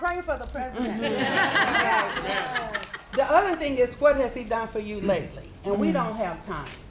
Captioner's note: laughter